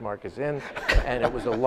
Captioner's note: audience laughs